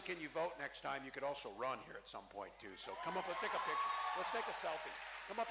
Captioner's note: cheering